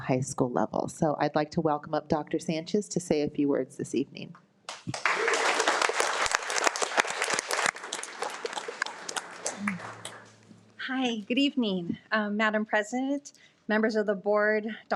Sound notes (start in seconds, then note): 4.7 audience applauding; 4.8 audience cheering